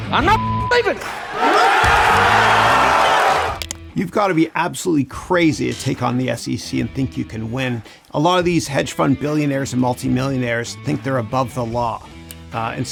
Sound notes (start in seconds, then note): 0.9 crowd cheers